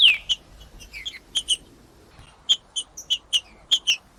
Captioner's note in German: trinca ferro cantando; trinca ferro cantando